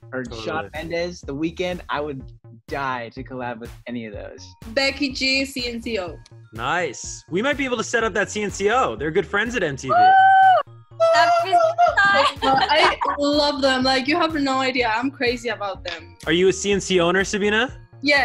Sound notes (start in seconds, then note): 9.9 girls screaming